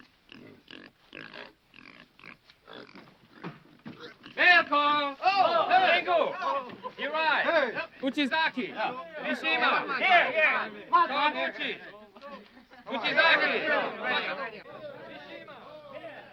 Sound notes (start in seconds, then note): 6.0 men shouting